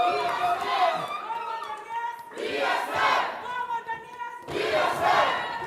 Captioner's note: muffled crowd chanting